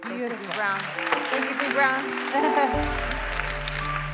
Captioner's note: applause